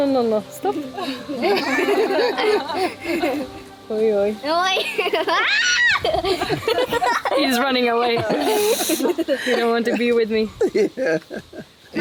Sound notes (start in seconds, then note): 1.0 all laughing; 6.0 squealing